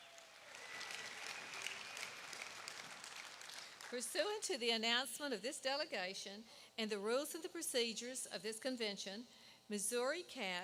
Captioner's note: applause